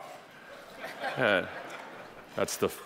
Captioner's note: audience laughing